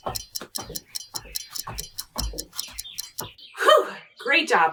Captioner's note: timer ticking; feet thudding